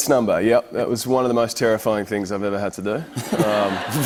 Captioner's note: laughter